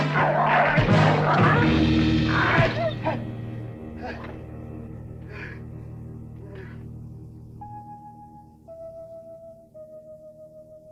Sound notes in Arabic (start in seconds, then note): 2.6 كلب يئن; 3.9 ديفيد يلهث; 7.9 موسيقى حزينة